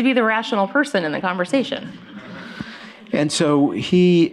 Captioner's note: laughter